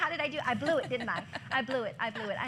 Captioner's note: laughter